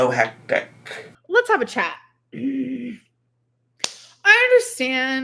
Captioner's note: coughs